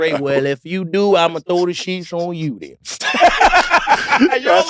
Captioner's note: laughs